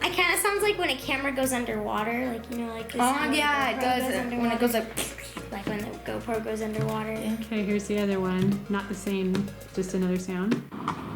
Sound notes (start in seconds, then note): 4.9 imitates sound